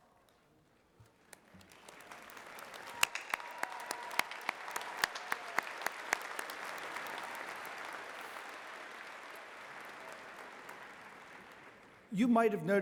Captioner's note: applause